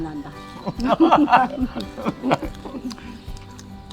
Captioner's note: both laughing